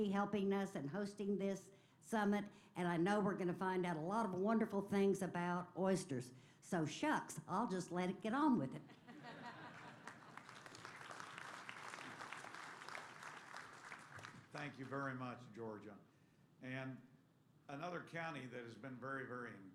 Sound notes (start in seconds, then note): 8.8 laughter; 9.6 applause